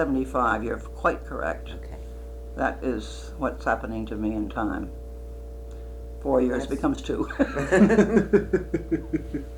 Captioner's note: laughter